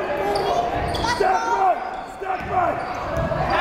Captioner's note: yelling